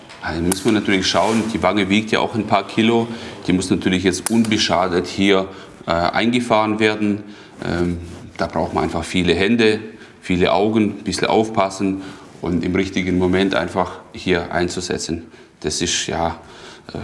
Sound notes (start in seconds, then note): none